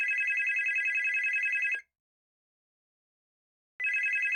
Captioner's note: phone Ringing